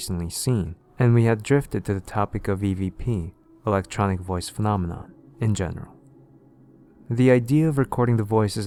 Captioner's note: electronic Voice Phenomenon